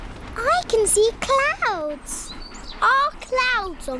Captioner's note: none